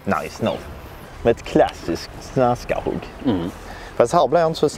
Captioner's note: swedish gibberish